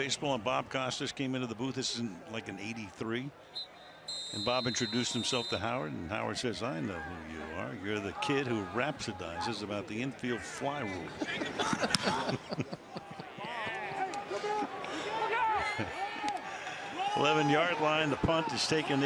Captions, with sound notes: we're doing baseball and Bob Costas came into the booth. This is, like, in '83. And Bob introduced himself to Howard. And Howard says, I know who you are. You're the kid who rhapsodizes about the infield fly rule. [laughter] 11-yard line.